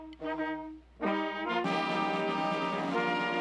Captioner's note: none